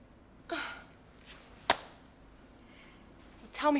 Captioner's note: sighs